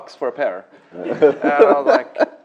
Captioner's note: laughter